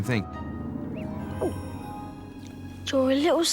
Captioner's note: ron gulps